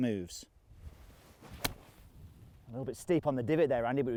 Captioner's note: golf shot thwacks